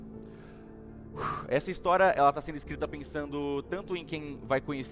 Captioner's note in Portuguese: suspira